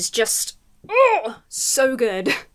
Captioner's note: gushes